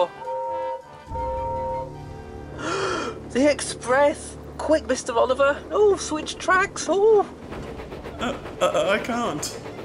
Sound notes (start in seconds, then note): 0.1 gordon whistles; 2.6 gasps